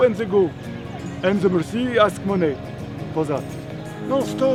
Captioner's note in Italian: Inglese